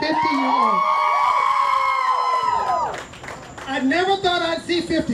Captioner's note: cheering